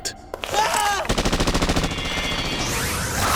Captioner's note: yells and gunfire